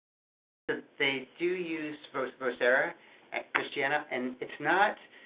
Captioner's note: voiceover